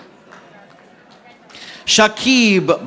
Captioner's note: audience applauding